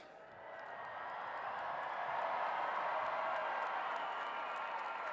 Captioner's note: cheers and applause